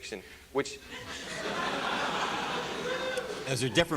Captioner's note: laughter